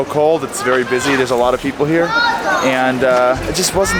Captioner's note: child yelling